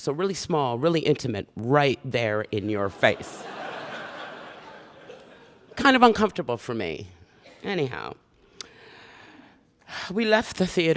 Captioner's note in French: Rires